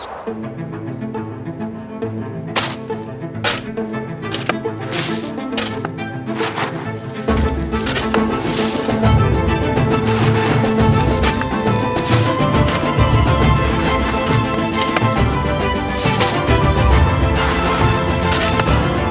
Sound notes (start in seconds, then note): 2.5 digging